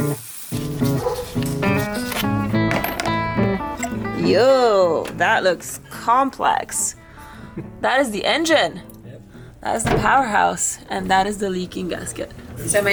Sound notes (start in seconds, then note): 2.6 screw clanking